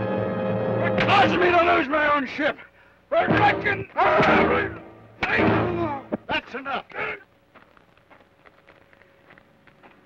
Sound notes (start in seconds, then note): 3.1 Joshua groans